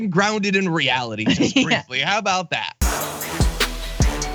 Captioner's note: laugh